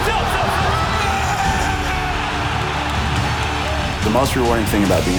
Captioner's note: yelling